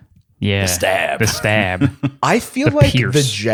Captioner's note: laughs